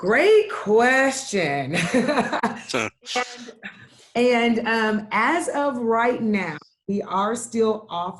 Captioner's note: laughs